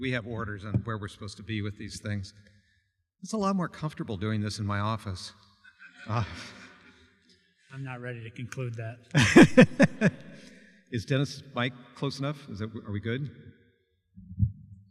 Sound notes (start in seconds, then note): 5.7 audience Laughter; 9.1 laughter